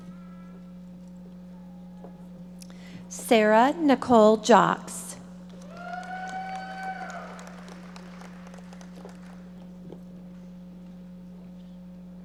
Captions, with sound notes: Sarah Nicole Jaacks. (audience members applauding)